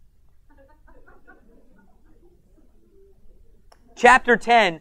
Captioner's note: audience laughs